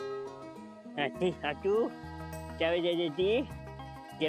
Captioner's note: Golu talking gibberish